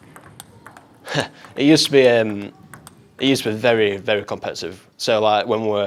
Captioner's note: laughs